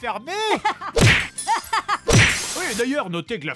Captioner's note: laughs and breaking sounds